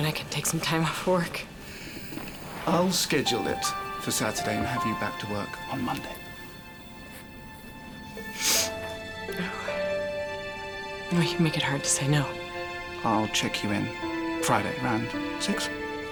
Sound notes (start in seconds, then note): 8.3 Katie sniffling